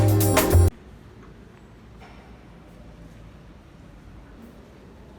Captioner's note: silence in the church